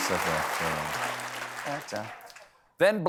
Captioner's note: applause